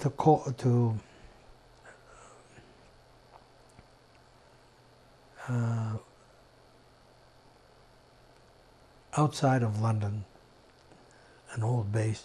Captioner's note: pauses 8 seconds